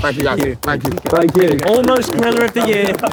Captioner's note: crowd clapping